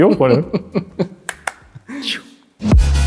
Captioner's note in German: Lachen; Dynamische Musik